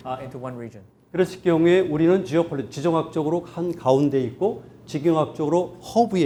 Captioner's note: speaking in Korean